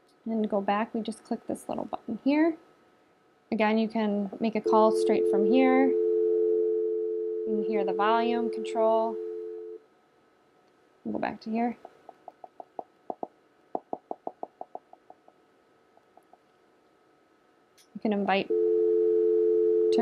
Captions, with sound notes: and to go back, we just click this little button here. Again, you can make a call (dial tone) straight from here. You can hear the volume control. We'll go back to here. (tapping) You can invite (dial tone)